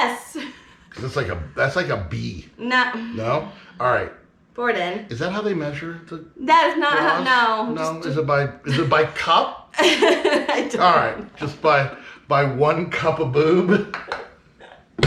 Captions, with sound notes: Is this like a-- that's like a B. No? - No-- (sighing) Pour it in. - Is that how they measure the bras? - That is not how... no. - Is it by cup? - (laughing) I don't know. - Alright, just by 1 cup of boob.